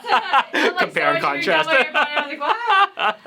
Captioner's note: laughter